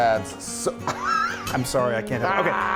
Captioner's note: chuckles